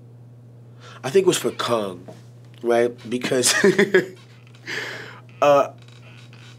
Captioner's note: laughing